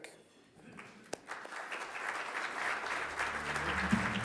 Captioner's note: audience applauds; dramatic music